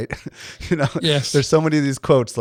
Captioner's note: laughs